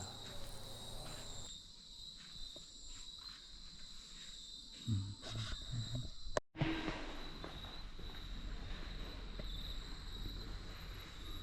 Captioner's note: sound of Nature